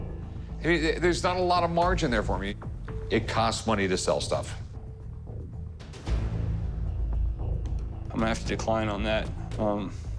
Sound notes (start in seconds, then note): none